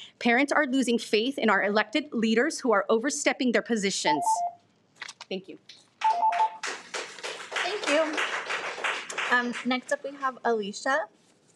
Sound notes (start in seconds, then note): 6.0 applauds